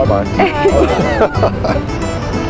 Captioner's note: laughter